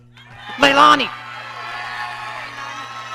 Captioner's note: audience cheering